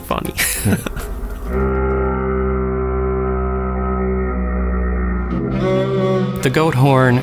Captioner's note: goat horn sound